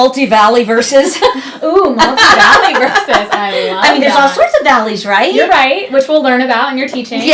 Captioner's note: laughter